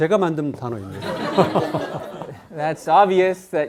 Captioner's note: speaking in Korean; students laughing